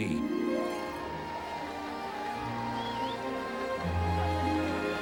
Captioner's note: cheers and applause